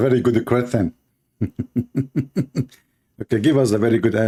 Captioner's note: Ketawa